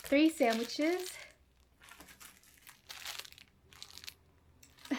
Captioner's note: crunching